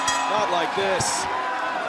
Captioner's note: bell ringing